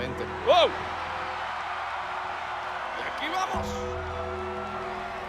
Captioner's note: applause